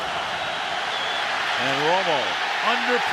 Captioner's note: cheering